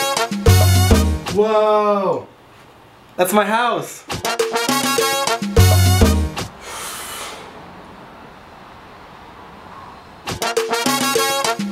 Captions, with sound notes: woahhhh thats my house [deep inhale]